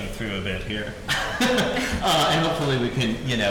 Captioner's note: laughing